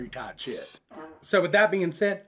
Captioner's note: toot